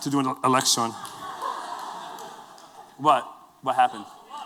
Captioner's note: laughter